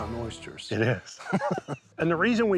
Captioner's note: laughing